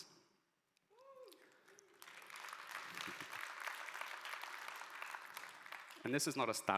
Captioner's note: audience applauding